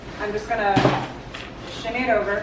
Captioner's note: thud